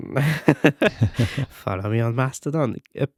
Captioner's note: laughing